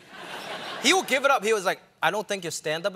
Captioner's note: laughter